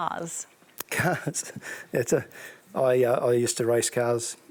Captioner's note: laughs